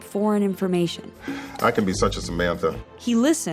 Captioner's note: sighs